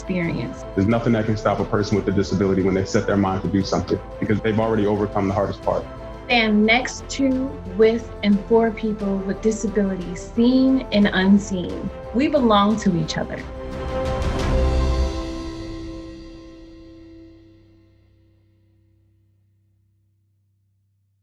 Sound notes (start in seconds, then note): 5.9 speaking over montage of smiling people; 20.8 music fades out